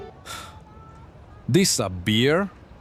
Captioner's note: sighs